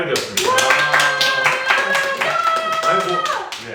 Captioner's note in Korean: 일동박수